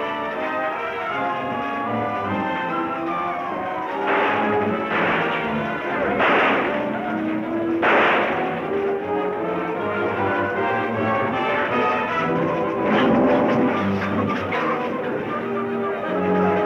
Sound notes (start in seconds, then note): 4.0 guns firing; 11.7 lion roaring; 13.7 dramatic orchestral music